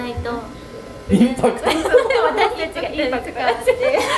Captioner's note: laughter